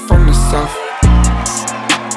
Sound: crowd screams

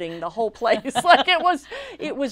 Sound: laughs

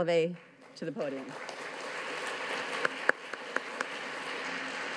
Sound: audience claps

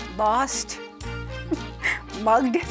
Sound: giggles

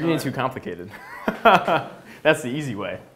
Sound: laughs

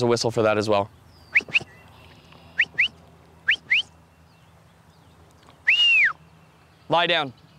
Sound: whistles

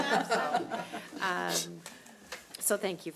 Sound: all laughing

